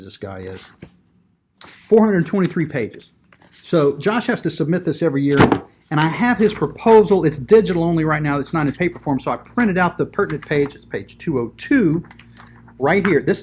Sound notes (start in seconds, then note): 5.3 bangs books